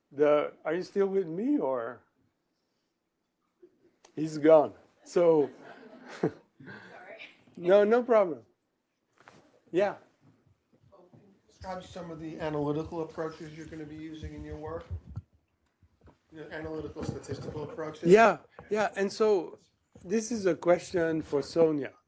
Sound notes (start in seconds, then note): 5.4 laughter; 5.5 laughs